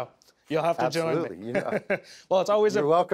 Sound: chuckles

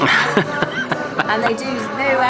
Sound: laughs

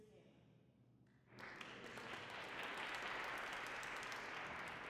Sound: applause

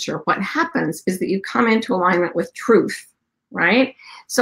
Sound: none

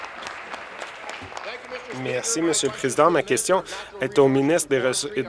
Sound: applause

